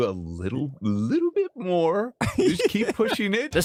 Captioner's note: laughs